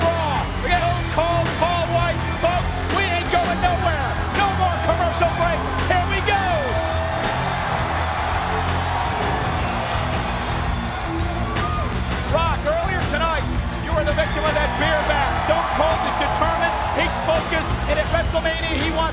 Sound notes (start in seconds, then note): 6.9 crowd cheering; 6.9 rock music continues